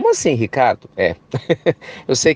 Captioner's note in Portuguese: risos